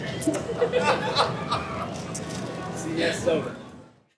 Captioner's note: group laughing